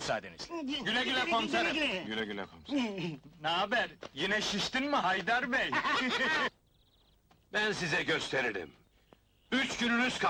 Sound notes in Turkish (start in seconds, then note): 5.6 gülüşmeler